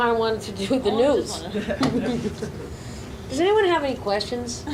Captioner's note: audience laughs